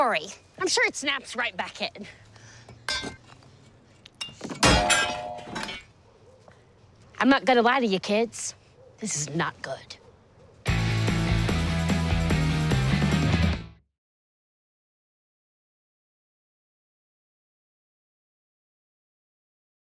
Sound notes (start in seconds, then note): 2.1 metal clinks; 4.5 metal clanks loudly